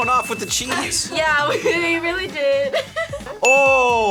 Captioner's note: laughs